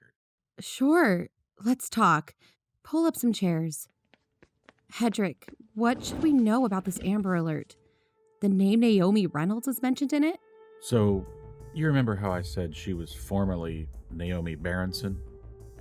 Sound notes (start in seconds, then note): 4.0 footsteps, chairs moving, sitting; 10.8 music change: mid tempo investigation music